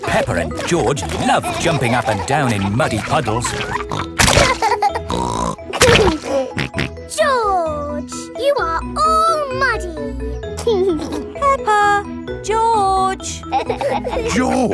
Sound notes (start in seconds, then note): 4.4 laughs and snorts; 10.6 giggling